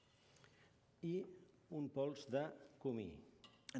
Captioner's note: non-english speech